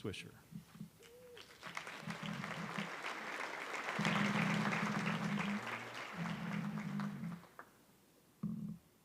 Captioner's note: applause